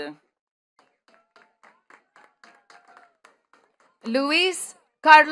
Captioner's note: attendees clapping